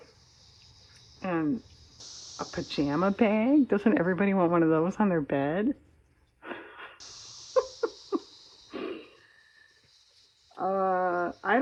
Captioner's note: laughs